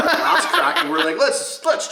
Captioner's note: laughing drowns out other sounds